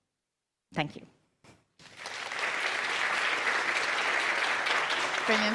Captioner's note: applause